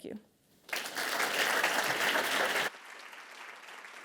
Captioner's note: audience clapping